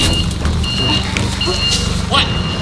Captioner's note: beeping